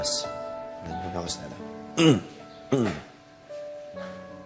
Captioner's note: clears throat